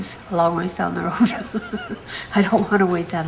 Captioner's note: laughs